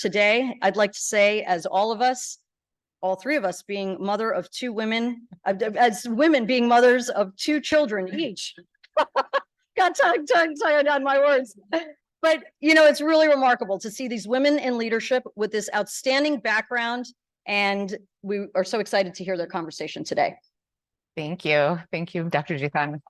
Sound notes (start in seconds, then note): 8.8 laughing